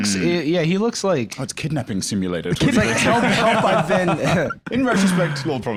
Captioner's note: laughs